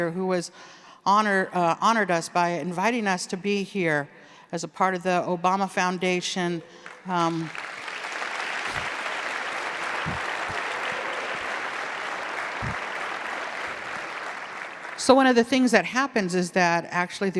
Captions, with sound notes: who honored us by inviting us to be here as a part of the Obama Foundation. (audience clapping) So one of the things that happens is that actually